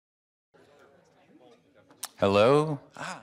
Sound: crowd talking

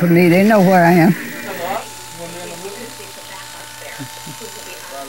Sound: razor buzzing

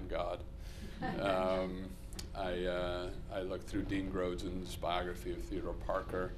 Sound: laughter

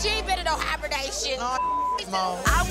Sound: beep sound

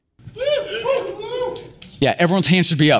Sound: audience cheering

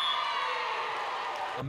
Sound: cheers

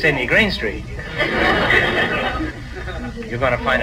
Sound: audience laughs

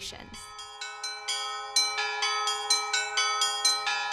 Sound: bells chiming

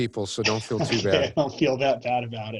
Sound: laughs

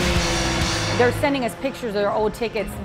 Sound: car engine roaring

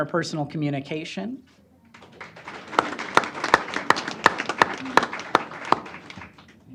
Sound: applause

